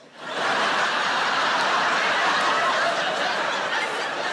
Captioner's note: audience laughing